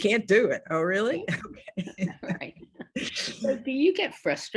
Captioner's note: laughs